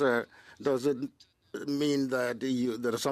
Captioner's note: speaking French